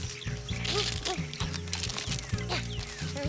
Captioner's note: munch munch